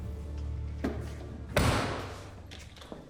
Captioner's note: closes trunk